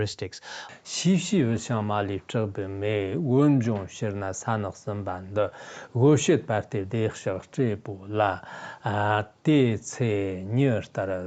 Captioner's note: giving oral transmission in Tibetan